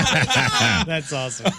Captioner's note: laugh